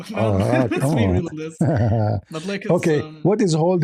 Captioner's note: laughter